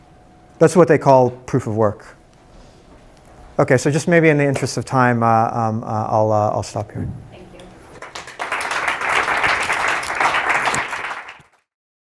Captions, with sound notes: That's what they call proof of work. Okay, so just maybe in the interest of time, I'll stop here. >> Thank you. >> [APPLAUSE]